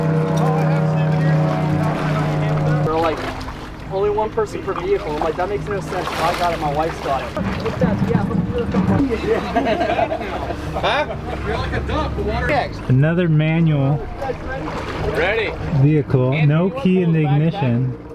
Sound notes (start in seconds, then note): 7.7 background chatter; 8.8 men laugh; 11.6 male Voice